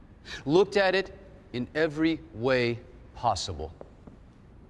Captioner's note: none